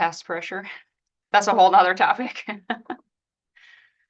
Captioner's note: laughs